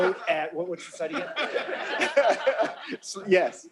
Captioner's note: laughter